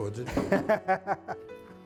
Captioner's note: laughs